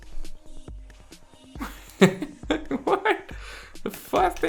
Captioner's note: laughs